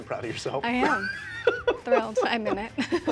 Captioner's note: laughing